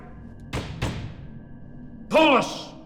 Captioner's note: pounding